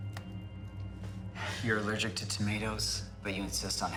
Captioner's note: sighs